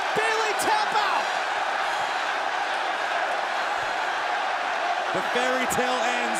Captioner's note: crowd cheering